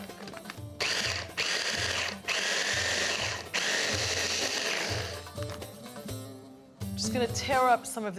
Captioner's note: pulsing